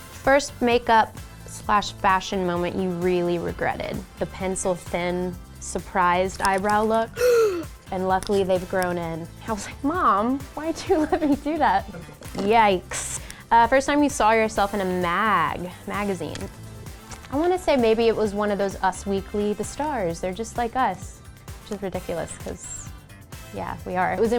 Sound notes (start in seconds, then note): 7.1 shocked gasp; 11.7 crew member chuckles